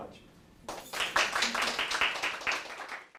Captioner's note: applauding